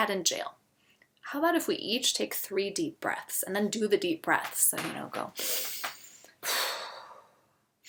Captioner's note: breathes deeply two times